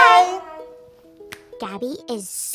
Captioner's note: snaps her fingers